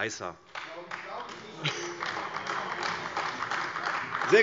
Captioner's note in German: Beifall : Das glaube ich nicht!